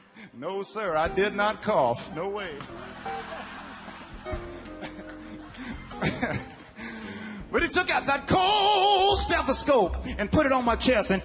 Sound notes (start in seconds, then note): 5.6 laughing